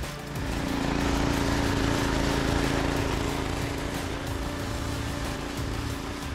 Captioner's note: upbeat music; till humming continues; upbeat music continues